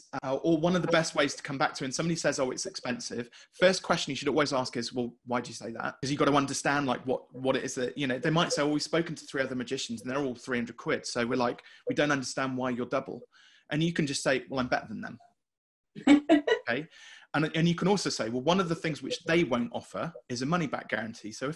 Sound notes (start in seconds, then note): 15.4 laughing